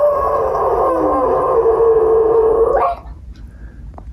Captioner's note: dog howling